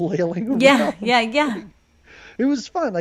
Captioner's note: laughs